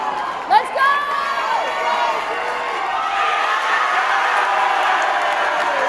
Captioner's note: cheering